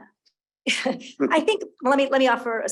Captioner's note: chuckling